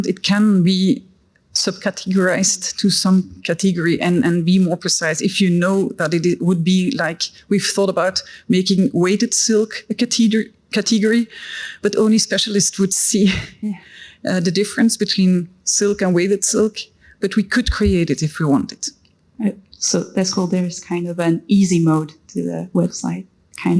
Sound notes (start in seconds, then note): 13.3 laughs